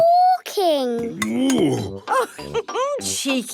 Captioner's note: laughs